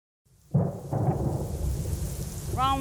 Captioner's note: thunder and rain